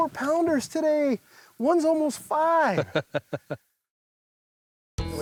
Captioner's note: laughs